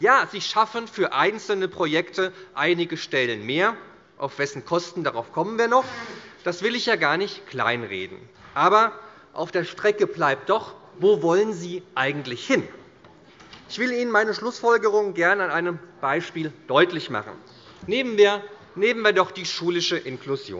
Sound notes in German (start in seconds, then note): none